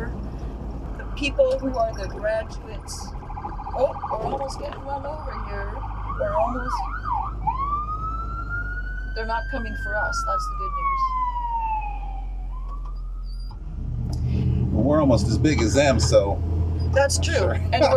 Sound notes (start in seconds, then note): 2.8 police siren blaring